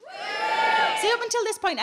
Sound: scattered cheering

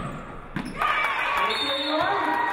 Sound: audience cheering; referee blows whistle

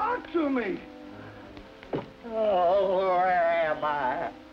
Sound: pained

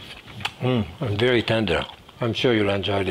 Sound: Jacques moans

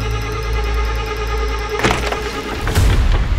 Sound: door opens

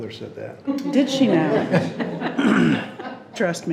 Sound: people laughing

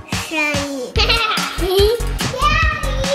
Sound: laughing

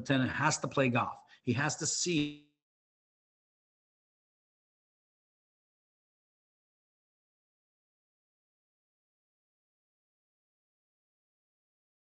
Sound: audio cut out

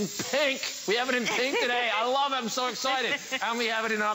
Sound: laughter

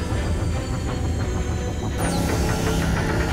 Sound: none

